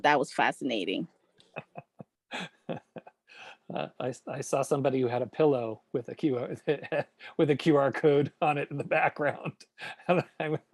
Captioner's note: laughs